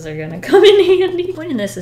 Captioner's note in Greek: Γέλια